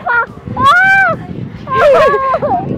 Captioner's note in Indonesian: Teriak